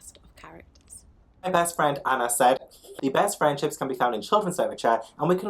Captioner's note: giggles